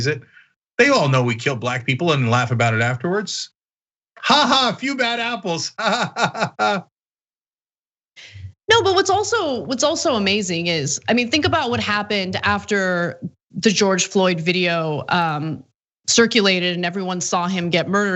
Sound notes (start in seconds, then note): 5.6 laugh